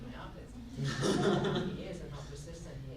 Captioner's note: group laughs